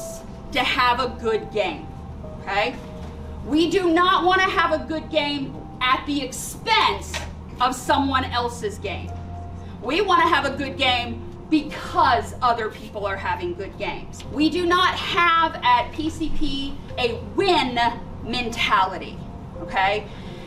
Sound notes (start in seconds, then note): none